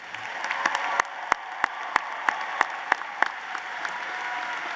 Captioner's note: applause